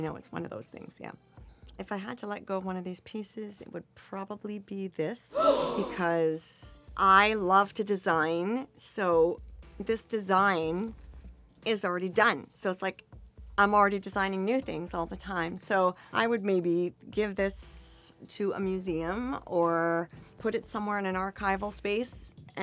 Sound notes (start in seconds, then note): 5.3 crowd gasping